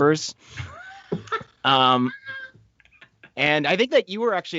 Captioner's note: laughing